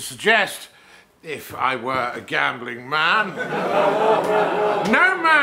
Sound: crowd laughs

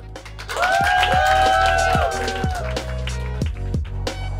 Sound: crowd cheers, applauds; chill music

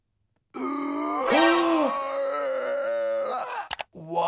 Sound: Chris inhaling

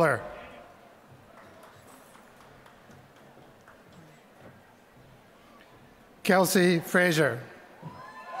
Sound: applause

